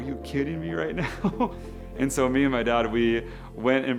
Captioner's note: laughs